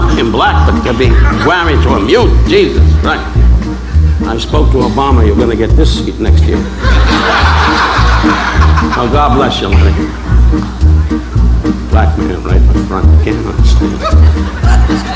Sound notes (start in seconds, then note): 6.4 audience laughing